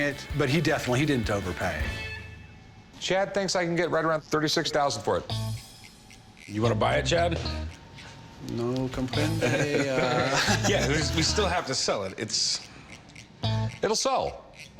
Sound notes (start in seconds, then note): 8.0 speaks foreign language; 9.2 all chuckle